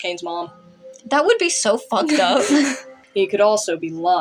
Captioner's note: laugh; chuckle